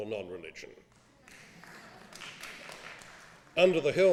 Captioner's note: applause